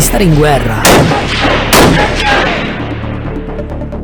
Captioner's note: gunshot